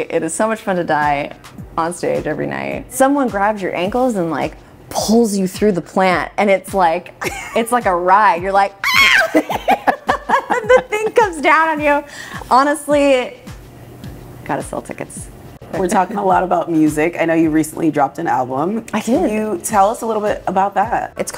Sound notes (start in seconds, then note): 8.8 screaming; 8.9 laughing